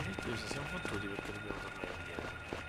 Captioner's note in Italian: Applauso